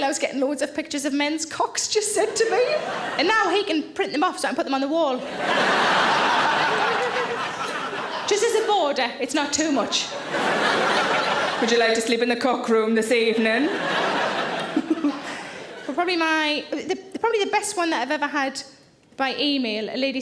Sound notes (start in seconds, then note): 5.2 audience laughing; 13.6 audience laughing